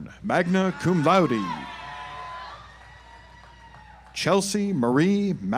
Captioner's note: audience applauds